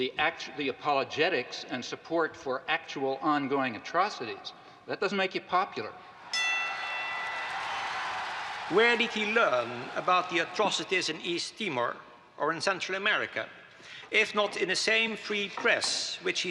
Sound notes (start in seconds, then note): 6.3 audience cheering; 6.3 bell dings